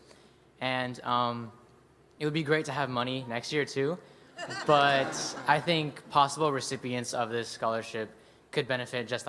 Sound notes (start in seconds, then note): 4.4 laughter